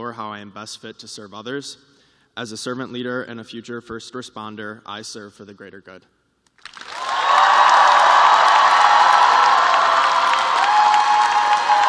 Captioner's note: cheers and applause